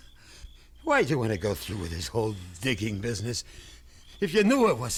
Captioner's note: stammers